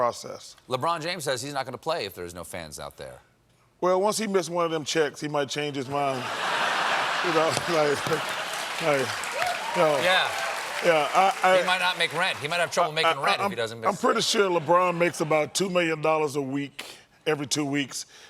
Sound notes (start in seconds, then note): 10.5 applause